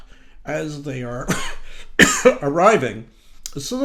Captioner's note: coughing